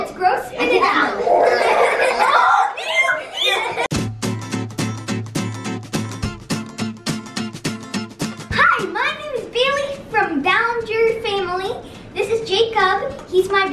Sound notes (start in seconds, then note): 0.5 shrieking and laughing; 3.8 upbeat music